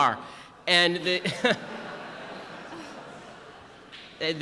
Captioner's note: audience laughter